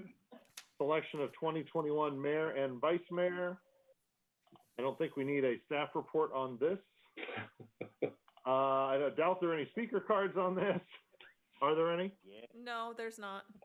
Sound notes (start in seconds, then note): 7.2 laughter